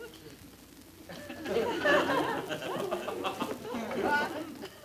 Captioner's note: audience laughter